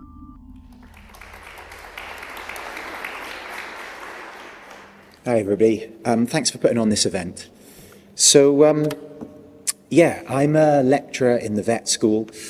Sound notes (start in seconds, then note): 0.6 applause